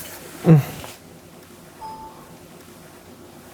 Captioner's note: sighs; computer pings